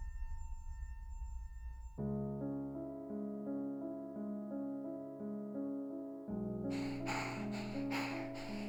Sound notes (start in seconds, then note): 1.9 Abby pants